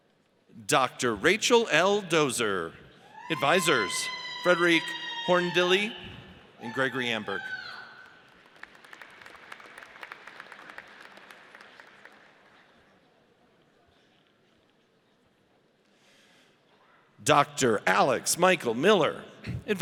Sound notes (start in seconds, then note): 4.8 woman yells; 7.9 audience applauds